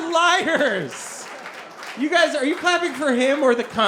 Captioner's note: audience clapping